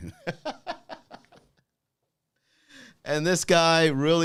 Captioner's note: laughing